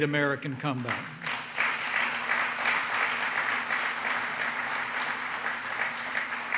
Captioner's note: applause